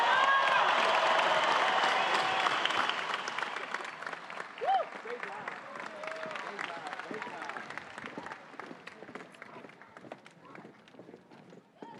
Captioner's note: cheering and applause